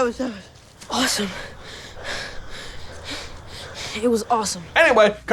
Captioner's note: pants